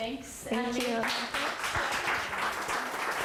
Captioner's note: applause